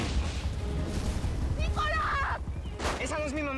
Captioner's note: Explosión